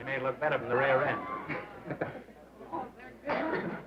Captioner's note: laughter